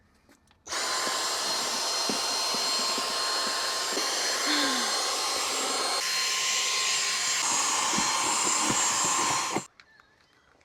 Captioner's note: vacuum vacuums loudly